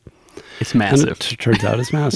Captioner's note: laughs